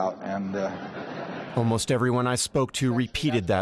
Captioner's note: audience laughter